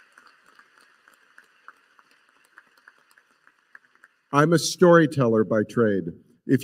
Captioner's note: applause